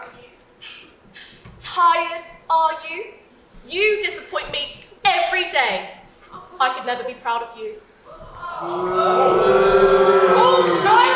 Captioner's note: audience boos and awwws, "Call Childline!"